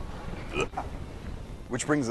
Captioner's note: gagging sound